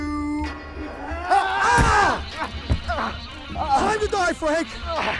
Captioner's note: shouting